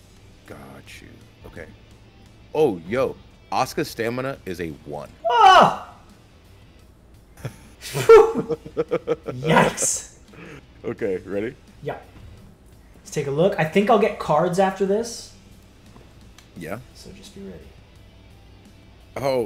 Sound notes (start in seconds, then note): 7.3 laugh